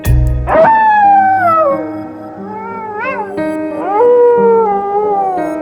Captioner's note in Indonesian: suara lolongan serigala